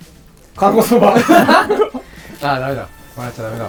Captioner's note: laughing